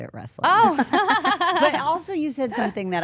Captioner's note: AJ and Stephanie laughing